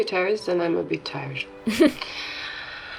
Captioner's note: chuckles